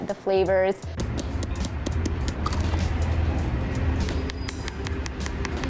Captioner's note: fingers tapping